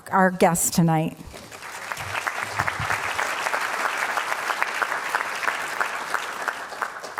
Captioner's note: applause